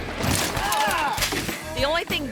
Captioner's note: bike crashes and rider moans